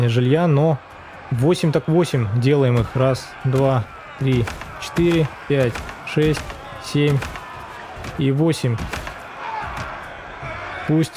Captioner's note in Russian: крик